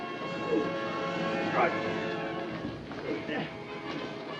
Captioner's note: grunts